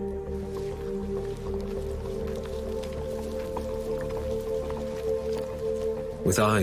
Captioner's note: grass rustling